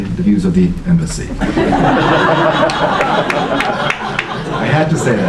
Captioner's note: laughter